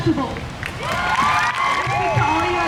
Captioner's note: crowd cheers